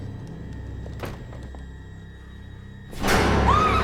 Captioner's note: shoes tapping; door clicks; loud sinister music